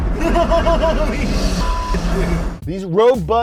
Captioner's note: laughs